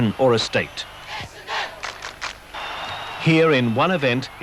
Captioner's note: crowd claps